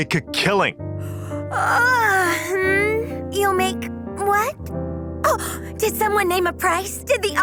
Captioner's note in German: gähn